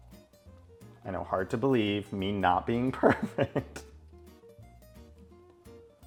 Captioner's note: laughs